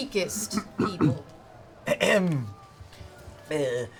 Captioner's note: clears throat